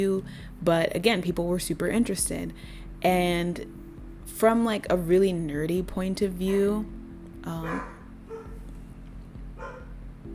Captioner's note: barking